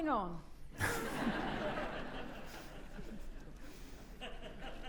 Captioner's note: audience laughing